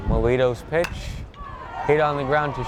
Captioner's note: bat cracks